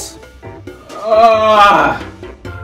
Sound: fat bastard mating call

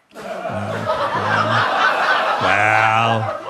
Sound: audience laughing

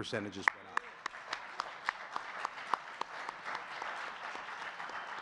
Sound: audience clapping

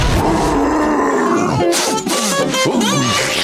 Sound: growling; sniffing

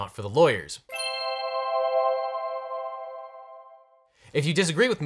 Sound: bells chiming

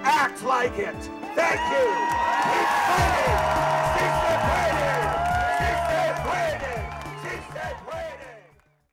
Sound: crowd cheering

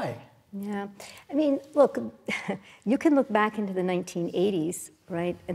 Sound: laugh

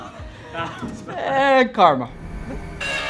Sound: laughs

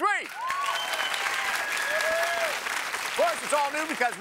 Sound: cheers and applause

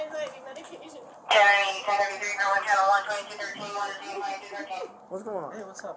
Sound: radio chatter

